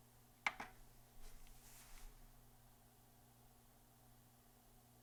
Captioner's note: button clicking